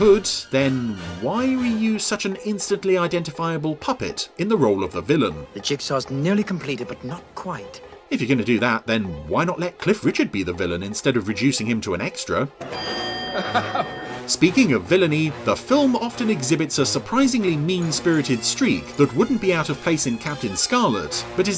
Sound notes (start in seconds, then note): 12.6 bell rings; 13.3 laughs